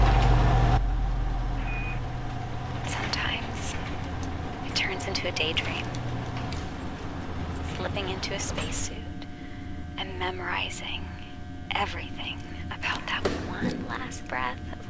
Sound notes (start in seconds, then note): 1.9 machine beeps